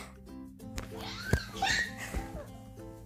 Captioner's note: baby sounds